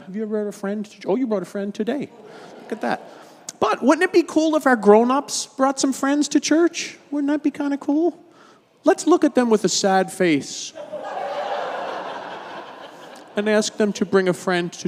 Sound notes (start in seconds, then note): 10.7 audience laughing